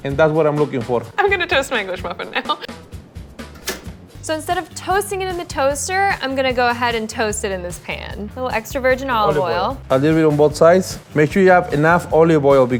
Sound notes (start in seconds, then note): 3.6 toaster clicking